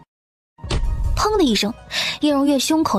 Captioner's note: bang!